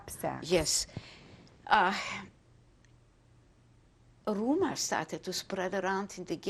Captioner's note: pauses for 3 seconds